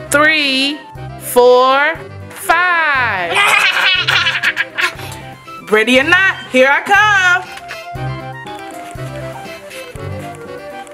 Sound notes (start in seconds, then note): 3.3 Goo Goo Gaga laughing; 7.9 adventurous music